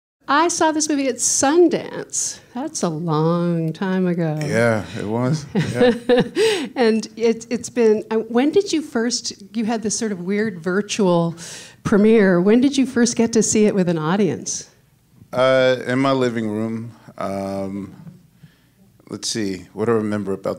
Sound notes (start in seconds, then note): 5.3 laughing